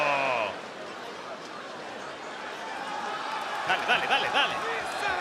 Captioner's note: applause